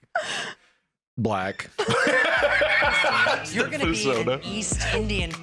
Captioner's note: laughs